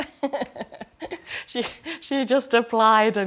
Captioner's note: all laughing